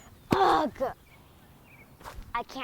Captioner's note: trowel slams